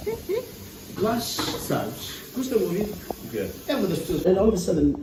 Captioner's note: everyone was chatting after eating